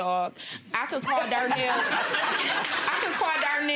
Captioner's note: audience laughs